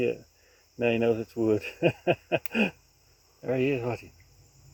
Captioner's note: laughs